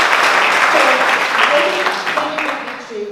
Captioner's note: applause